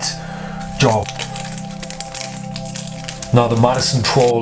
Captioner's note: plastic unwrapping